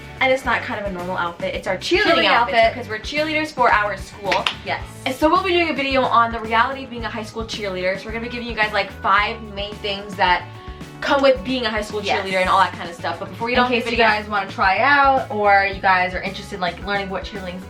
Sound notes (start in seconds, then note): 4.2 claps